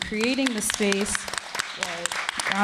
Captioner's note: applause